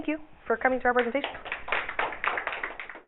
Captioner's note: audience applause